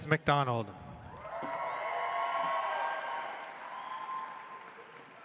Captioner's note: audience applauds